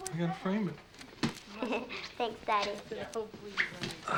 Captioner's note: giggles